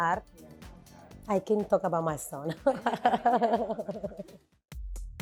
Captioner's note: laughs